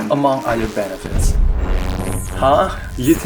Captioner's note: sfx: ghostly whispering